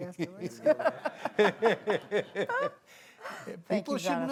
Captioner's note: audience laughing